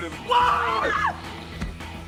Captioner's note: screams